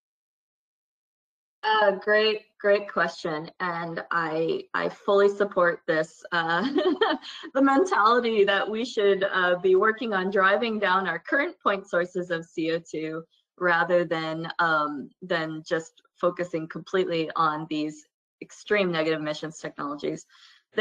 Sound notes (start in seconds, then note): 5.5 laugh